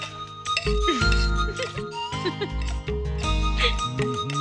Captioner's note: chuckling